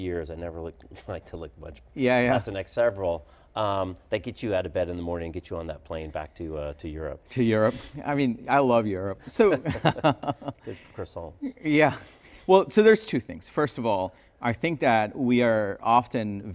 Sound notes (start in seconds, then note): 9.4 both laugh